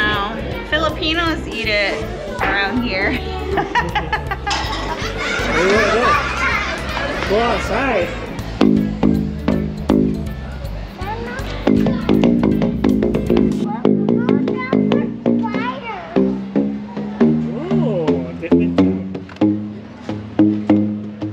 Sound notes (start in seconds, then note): 2.8 laughs; 5.3 laughter; 8.7 tube booms